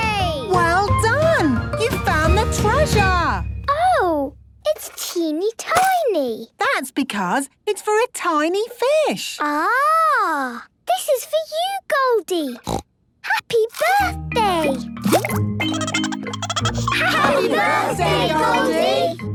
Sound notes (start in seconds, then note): 12.6 snorting; 15.7 Goldie giggling